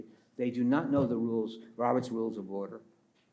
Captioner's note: pats table